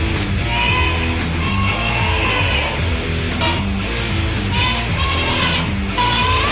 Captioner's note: creature squealing; crunching noises; creature squealing; music stops